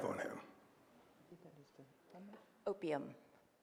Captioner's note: speaks faintly